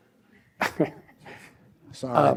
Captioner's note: chuckles